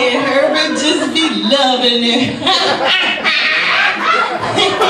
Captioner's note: laughs